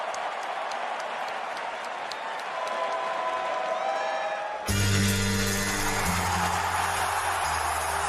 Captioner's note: cheers and applause